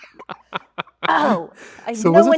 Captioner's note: Andrew laughs